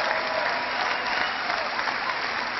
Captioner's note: cheering